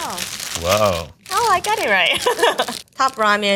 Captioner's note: chuckling